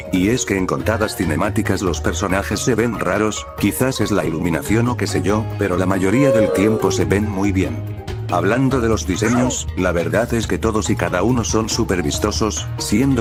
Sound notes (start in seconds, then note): 6.0 roblox piola sound that says oof